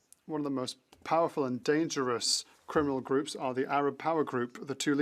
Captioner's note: speaking French